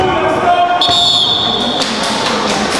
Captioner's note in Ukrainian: сигнал рефері